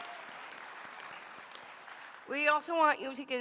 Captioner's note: applause